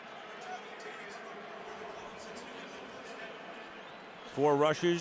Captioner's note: pa announcement